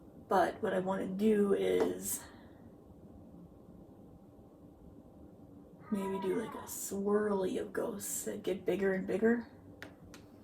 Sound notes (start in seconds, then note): 8.8 meowing in background